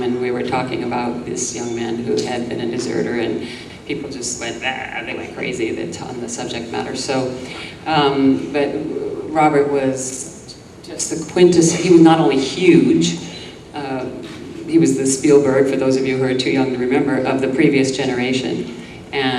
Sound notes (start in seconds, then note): 4.6 groans